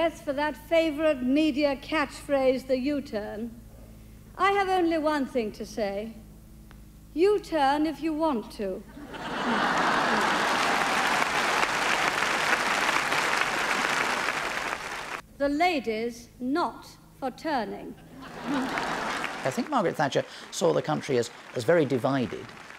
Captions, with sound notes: for that favorite media catchphrase, the U-turn, I have only one thing to say. U-turn if you want to. (clapping) The Lady's not for turning. (audience laughs and claps) - I think Margaret Thatcher saw the country as very divided.